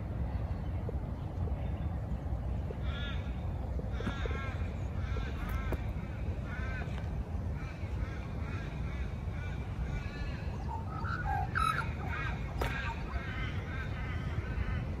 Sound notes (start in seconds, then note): 2.5 more crows join in, calling back and forth; 10.2 one of the magpies on screen warbles a pretty song